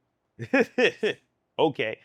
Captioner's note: laughs